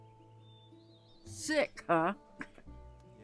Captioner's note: scoffs